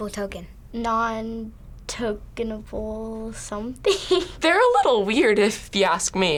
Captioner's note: laughs